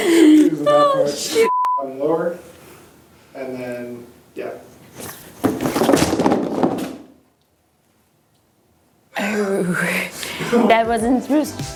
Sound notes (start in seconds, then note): 1.4 beep; 5.4 items falling